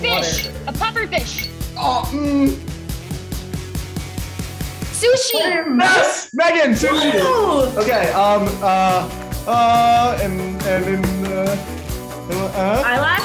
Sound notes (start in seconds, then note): 1.9 Jaren groaning; 8.8 Jaren frantically mumbling